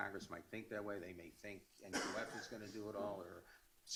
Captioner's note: coughs